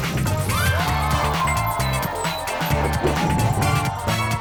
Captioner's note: children cheering